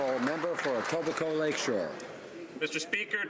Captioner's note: applause